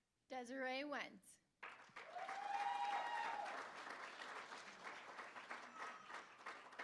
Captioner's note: applause; cheering